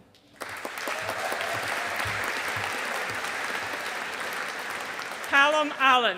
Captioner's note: audience applauding